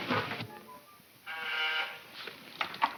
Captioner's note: intercom buzzes